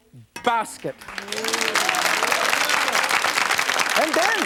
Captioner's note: crowd cheering